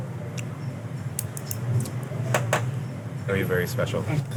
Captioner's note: chopsticks rapping